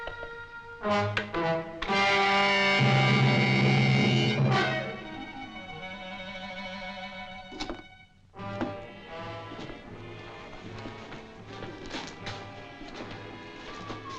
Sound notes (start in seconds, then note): 0.8 dramatic music; 7.5 door rattling